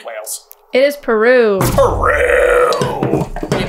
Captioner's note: disgust